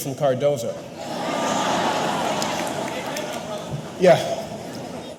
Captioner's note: audience laughing